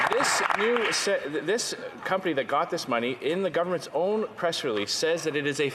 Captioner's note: some Applause